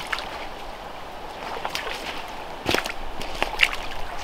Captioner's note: water splashing